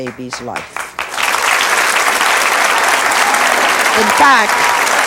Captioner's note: audience applauds